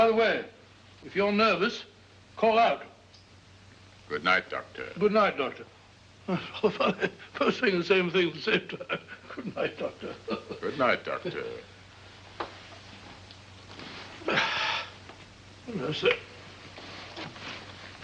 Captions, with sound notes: Oh by the way, if you're nervous, call out. - Good night, Doctor. - Good night, Doctor. (chuckling) Both saying the same thing at the same time. Good night, Doctor. - Good night, Doctor. (sighs) - I say...